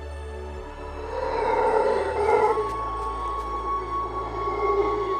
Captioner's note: loud, resonant howling